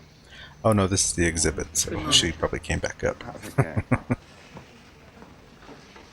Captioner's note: chuckling